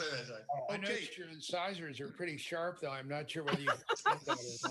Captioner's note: laughter